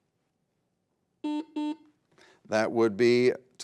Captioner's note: buzzer beeps